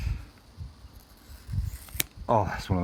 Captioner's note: scissors cutting rubber